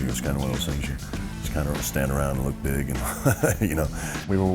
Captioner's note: laugh